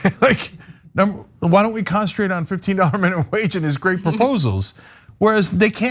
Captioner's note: laugh